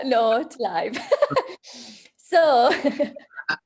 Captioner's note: laughs